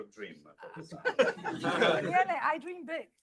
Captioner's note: laughter